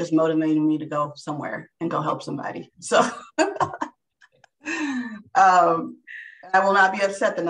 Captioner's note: laughing